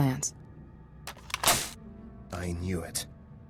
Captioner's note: gun cocks